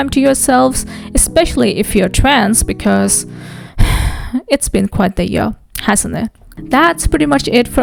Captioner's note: sighs